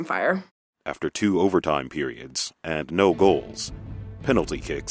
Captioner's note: voiceover